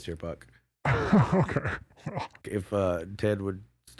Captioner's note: laughs